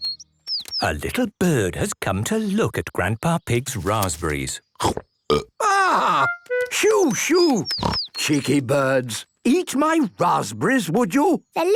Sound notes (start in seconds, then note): 5.2 burps